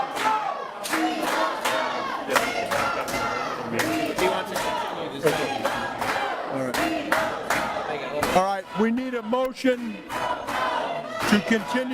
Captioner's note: audience chanting we won't go